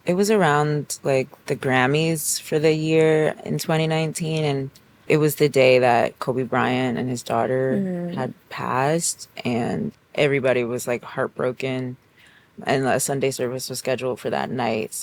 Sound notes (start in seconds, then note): none